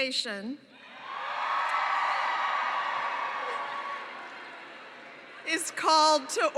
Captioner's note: cheering